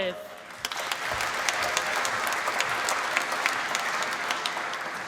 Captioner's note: applause